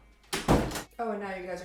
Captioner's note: door closes